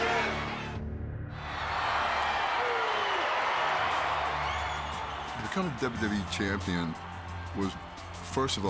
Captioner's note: applause